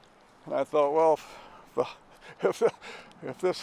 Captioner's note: chuckling